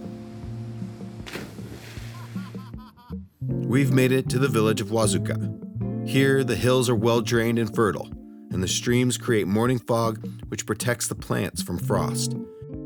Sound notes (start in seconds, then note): 0.0 water splashes; 2.4 onlooker laughs